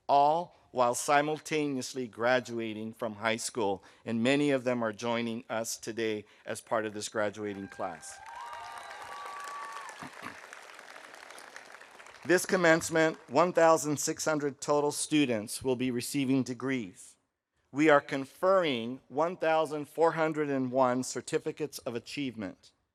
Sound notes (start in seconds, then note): 7.4 audience cheering; 7.5 audience applauding